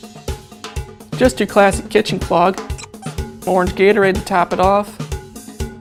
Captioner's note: squeak